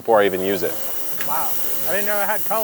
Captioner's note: machine whirring